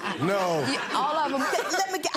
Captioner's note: laughing